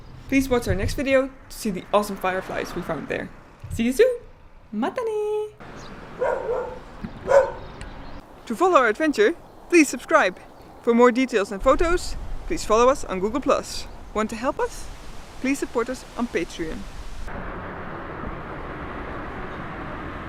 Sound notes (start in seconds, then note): 7.2 woof; 7.2 woof woof